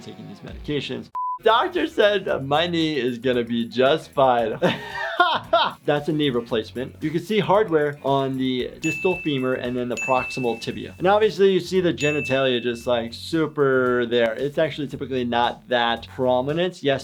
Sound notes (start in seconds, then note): 4.6 laughing